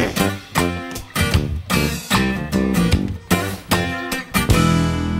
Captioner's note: growling